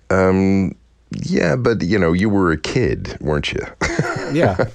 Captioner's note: laughter